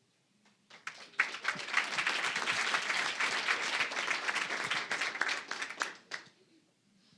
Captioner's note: applause